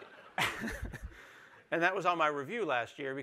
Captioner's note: laughter